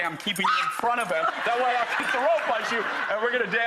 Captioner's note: screams